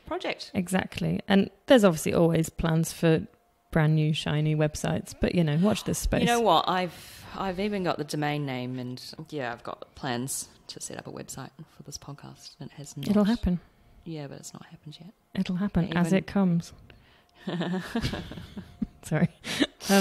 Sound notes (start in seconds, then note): 17.4 crippled laughter